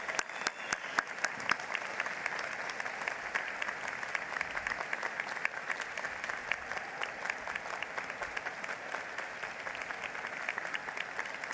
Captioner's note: applause